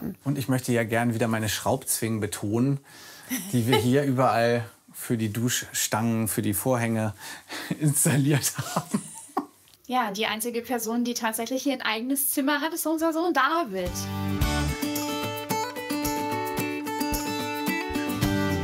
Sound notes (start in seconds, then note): 7.6 they laugh; 13.9 playful music